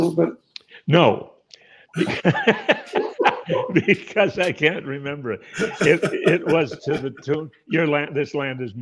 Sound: laughs

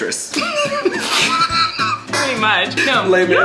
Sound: Todrick and Colleen laugh

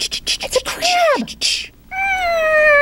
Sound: gasp

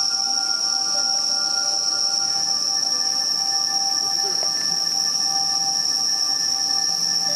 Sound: otherworldly chimes mingle with cicadas

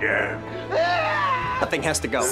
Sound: screaming

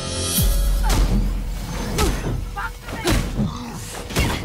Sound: banging

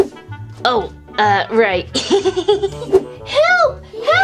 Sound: giggles

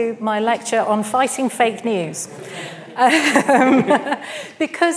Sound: laughs

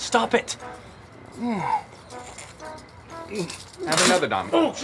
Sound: Donny groans

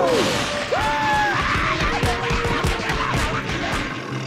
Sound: screaming

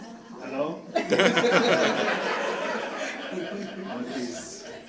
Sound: crowd laughs

